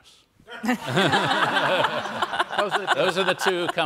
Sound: all laugh

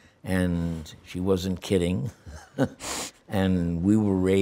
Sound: laughs

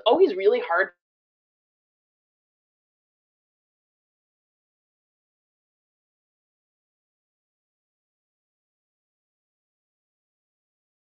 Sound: no audio

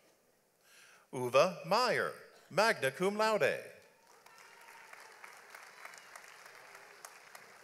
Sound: audience applauds

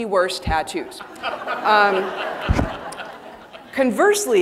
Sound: audience laughing

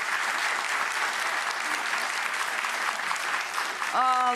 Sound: audience applauding

